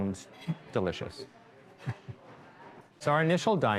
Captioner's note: chuckles